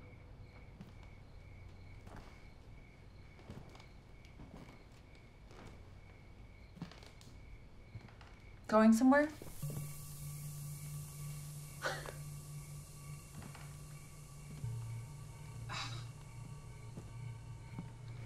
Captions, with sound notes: Going somewhere? - [huffs] [sighs]